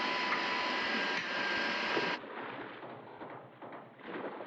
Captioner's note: hammering